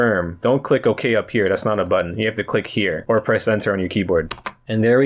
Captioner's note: presses Enter on keyboard